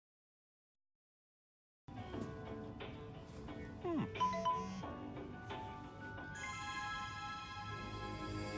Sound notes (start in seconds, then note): 4.1 cell phone chimes